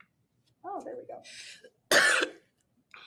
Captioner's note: cough